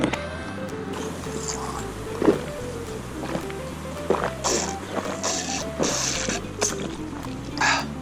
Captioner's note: drinking